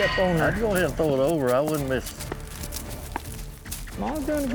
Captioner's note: pats horse, makes kiss sound